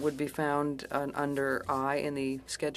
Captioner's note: speaking French